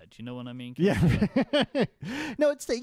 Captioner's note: laughing